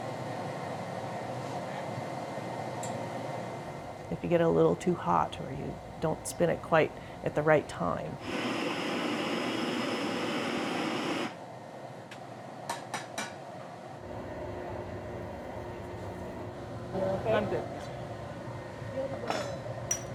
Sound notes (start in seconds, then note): 8.1 torch sounds